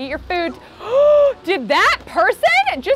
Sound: gasping

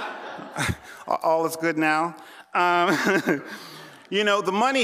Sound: laughter; laughing

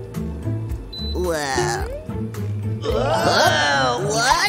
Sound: groans

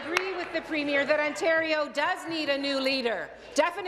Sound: applause

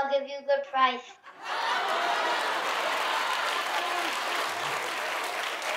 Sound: audience laughing

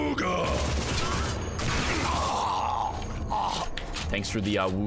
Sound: laughs

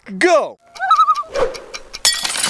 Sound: loon call

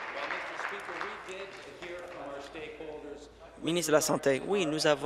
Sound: applause

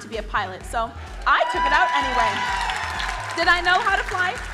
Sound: crowd cheering

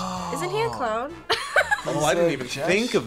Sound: laughs

